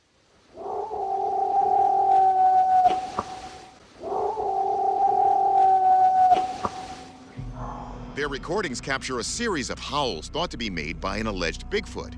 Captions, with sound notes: [distant howling] [howling continues] Their recordings capture a series of howls thought to be made by an alleged Bigfoot.